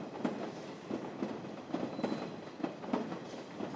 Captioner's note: sound of train running